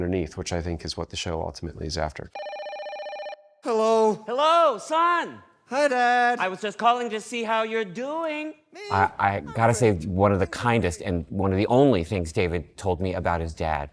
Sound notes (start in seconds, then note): 2.3 telephone rings